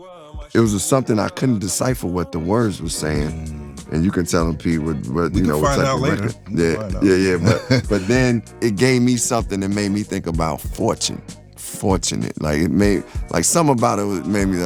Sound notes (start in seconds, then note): 5.2 chuckles